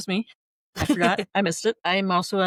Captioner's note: laughter